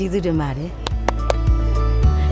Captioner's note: claps